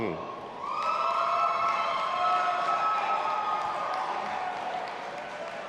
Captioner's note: audience applauding and cheering